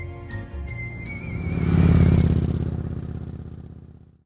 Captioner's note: upbeat music; engine chugging